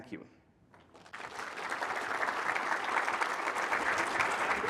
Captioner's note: applause